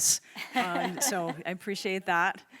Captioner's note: all laughing